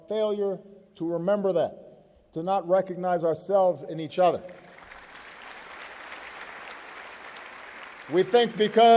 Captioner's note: applause